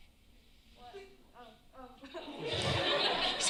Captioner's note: laughter